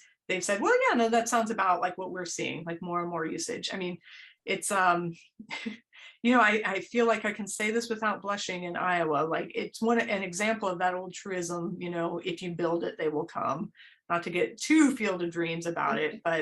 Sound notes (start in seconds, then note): 3.7 laughter